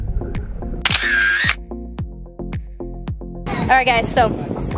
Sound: camera clicks

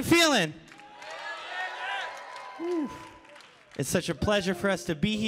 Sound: audience cheering

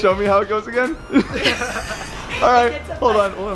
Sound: chuckling

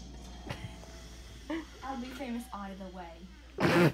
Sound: British accent; British accent; laughing

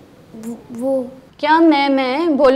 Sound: stutters

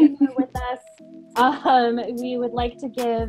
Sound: laughing

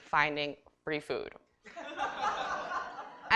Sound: laughter

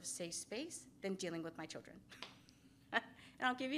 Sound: laughs

